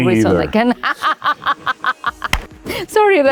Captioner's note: Penelope laughs